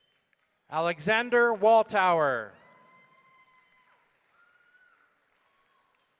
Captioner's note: audience cheering